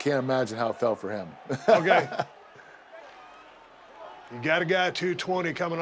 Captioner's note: laugh